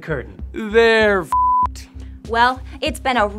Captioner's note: beep